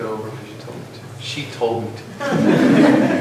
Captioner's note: laughter